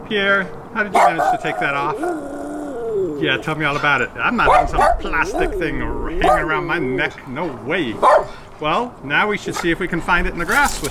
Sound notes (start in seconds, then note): 2.5 dog barking and growling